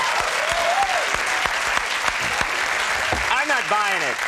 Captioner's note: audience applauding